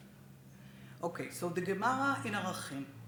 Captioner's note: speaks Hebrew